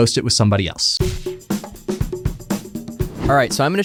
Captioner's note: percussive music; screen whooshing